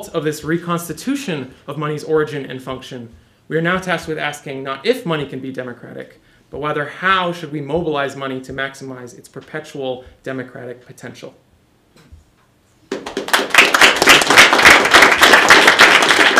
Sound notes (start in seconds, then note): 12.9 applause